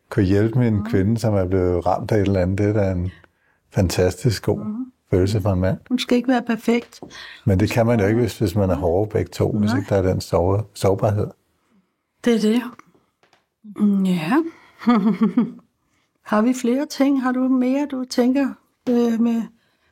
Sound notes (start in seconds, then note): 14.8 chuckles